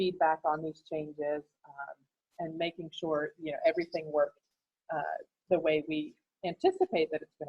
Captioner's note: none